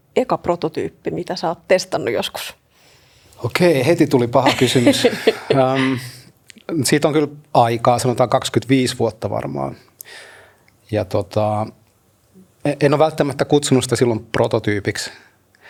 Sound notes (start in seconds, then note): 4.4 laughter